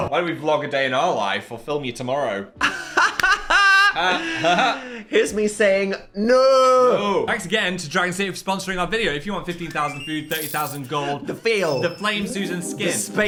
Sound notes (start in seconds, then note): 2.6 Dan laughs